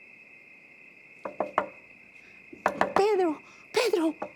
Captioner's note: crickets chirping; knocking on door